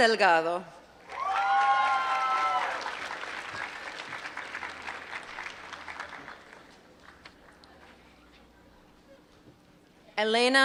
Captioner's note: applause